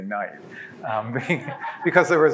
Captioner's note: laughs